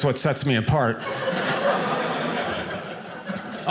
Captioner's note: audience laughing